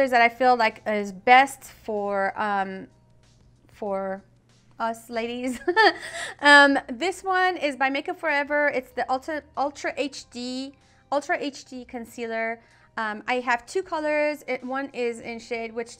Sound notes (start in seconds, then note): 5.6 laughing